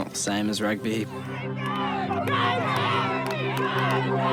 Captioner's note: people shout